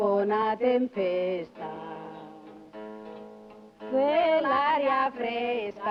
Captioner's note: none